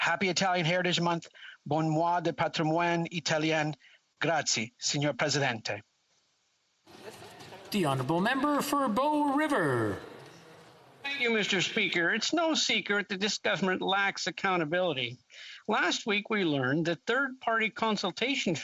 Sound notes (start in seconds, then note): 11.5 speaking Alternative Language